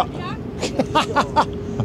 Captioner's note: laughs